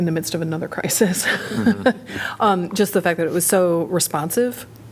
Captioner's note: laughter